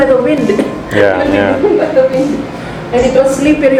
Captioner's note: chuckles